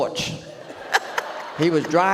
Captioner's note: audience laughs